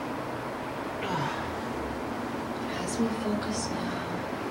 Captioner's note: groaning